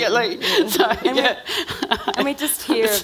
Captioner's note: laughing